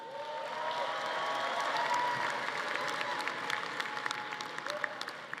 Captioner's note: audience applauding